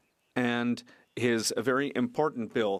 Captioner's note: speaking French